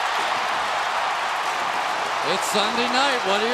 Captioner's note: crowd cheering